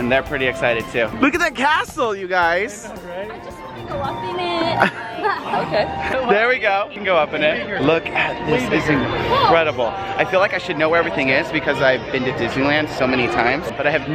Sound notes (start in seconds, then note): 3.4 male Voice